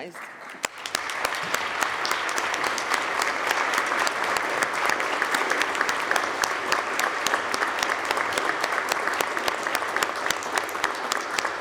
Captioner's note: applause